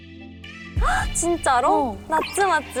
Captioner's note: heart thumping!